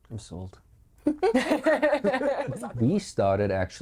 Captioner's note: all laughing